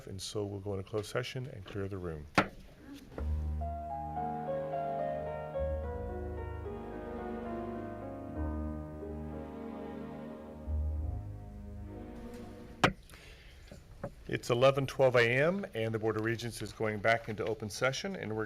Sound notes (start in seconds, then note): 4.1 calm instrumental music; 12.8 gavel banging